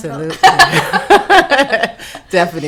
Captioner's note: laughing